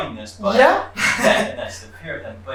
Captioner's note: chuckles